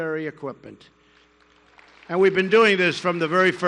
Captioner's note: applause